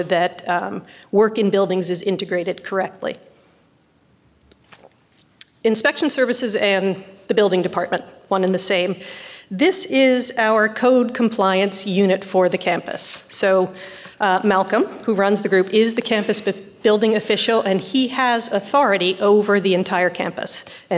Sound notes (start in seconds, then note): none